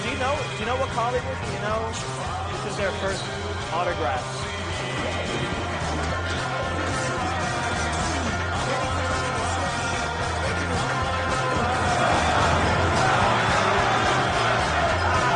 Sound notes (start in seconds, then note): 4.8 actors grunting; 9.2 audience loudly laughing; 11.4 audience cheers